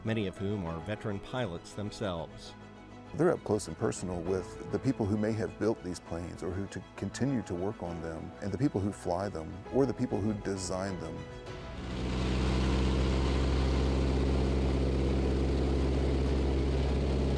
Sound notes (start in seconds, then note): 11.7 plane engine roaring